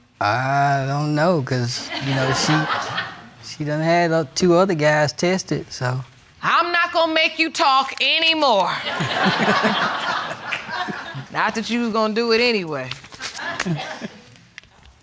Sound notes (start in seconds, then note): 8.8 audience laughing